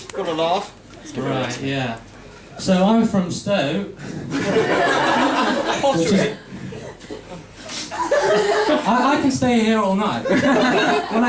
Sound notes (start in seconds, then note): 4.2 laughter; 10.2 laughter